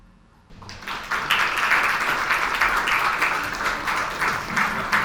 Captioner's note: audience applauds